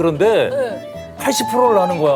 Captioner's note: hahahahahahaha